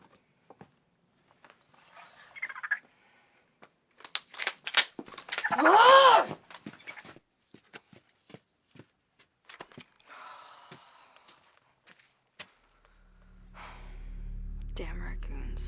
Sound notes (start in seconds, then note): 2.1 raccoon chittering; 5.4 raccoon chitters; 5.5 growls in frustration; 10.0 sighs; 13.5 sighs